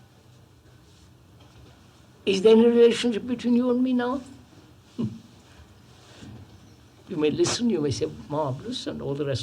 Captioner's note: laughs